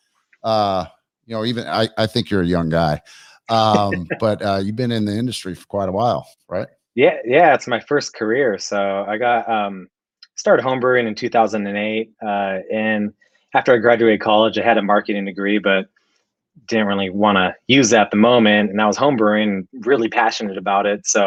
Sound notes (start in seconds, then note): 3.4 laughs